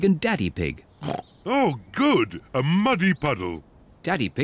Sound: snorts

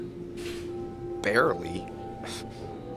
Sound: laughs

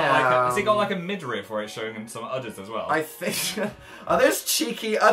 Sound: laughs

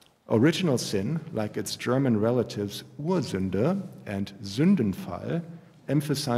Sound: german

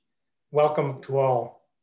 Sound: speaking Alternate Language

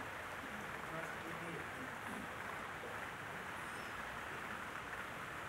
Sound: voice in audience

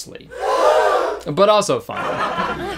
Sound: shocked gasping; crowd chuckling

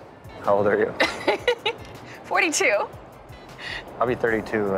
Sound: laughs

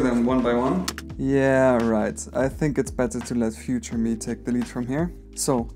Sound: voiceover

